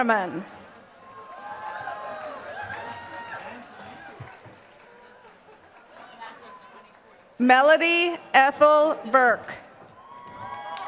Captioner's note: applause; applause